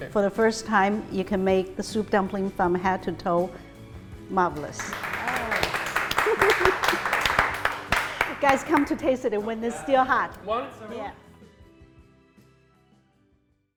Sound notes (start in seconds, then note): 4.8 everyone applauds